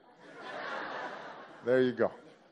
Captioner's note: laughter